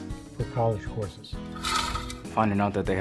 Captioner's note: spool unrolling